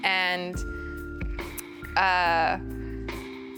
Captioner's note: swallows